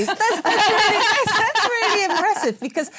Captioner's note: laughter